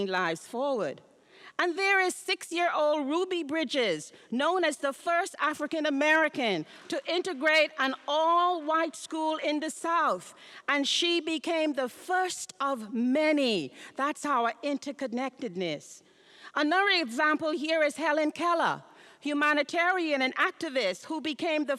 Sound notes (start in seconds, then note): none